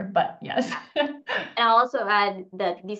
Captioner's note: laughs